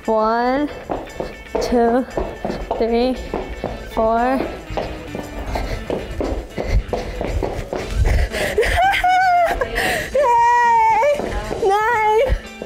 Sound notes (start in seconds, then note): 0.1 upbeat electric music; 4.4 breathing heavily; 4.7 shoes clattering; 8.1 laughing